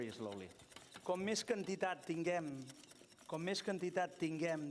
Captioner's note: non-english speech